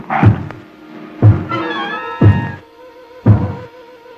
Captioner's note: intense suspenseful music; heart beating louder